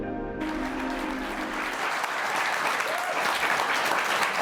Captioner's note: audience applauding